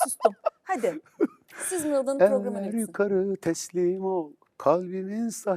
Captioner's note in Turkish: kahkaha